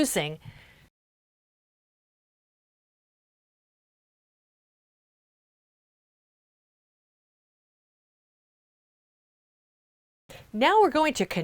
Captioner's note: no Sound Present